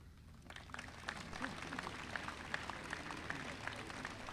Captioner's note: audience applauding